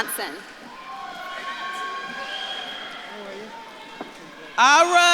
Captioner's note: audience claps and cheers